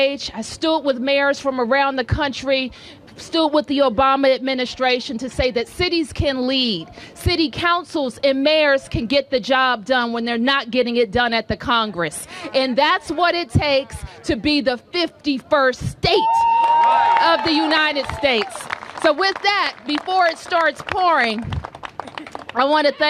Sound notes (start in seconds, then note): 18.4 applause